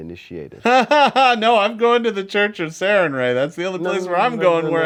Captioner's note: laughs